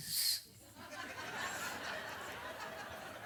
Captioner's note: audience laughs